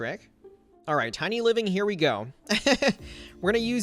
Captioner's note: laughs